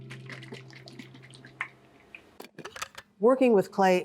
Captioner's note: clay sloshing